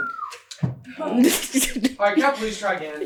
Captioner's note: laughing